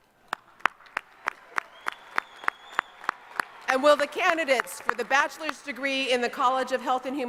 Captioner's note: applause